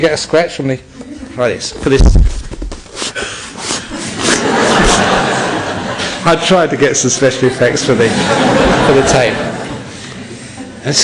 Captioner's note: scratches tissue box